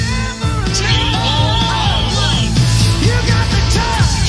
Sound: group chant

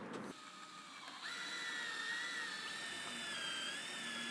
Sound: electric saw roaring

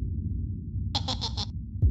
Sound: chuckling

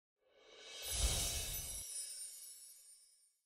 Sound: bells chime

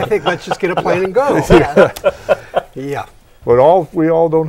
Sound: laughing

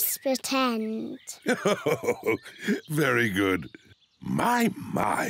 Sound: laughs

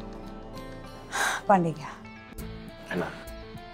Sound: Sakshi sighs

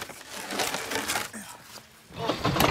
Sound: moan

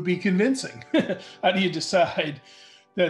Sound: light laughter

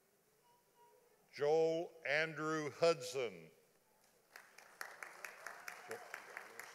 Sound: audience applauding

